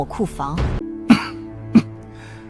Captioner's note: cough cough